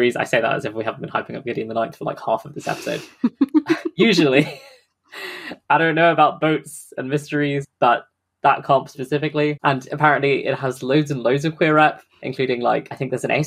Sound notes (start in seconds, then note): 2.6 laughs; 5.1 sighs